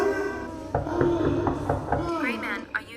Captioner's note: knocking on the door